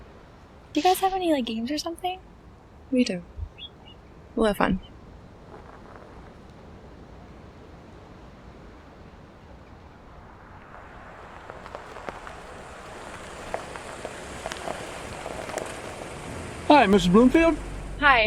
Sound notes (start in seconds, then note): 5.0 car approaching